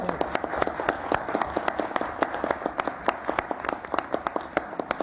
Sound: applause

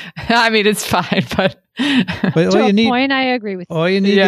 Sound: chuckles

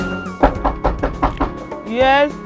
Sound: knock

